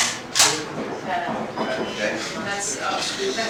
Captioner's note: cocks gun